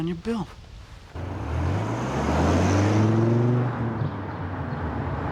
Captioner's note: engine roaring